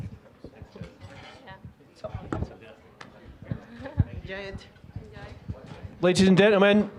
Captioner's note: general chatter